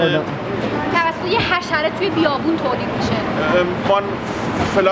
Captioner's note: speaks in foreign language